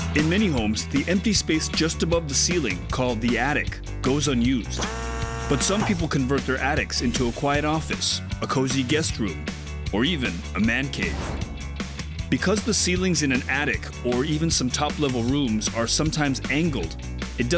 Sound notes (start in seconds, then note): 4.7 drilling